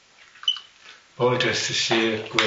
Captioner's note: phone beeps off